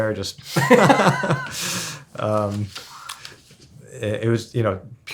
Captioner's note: men laugh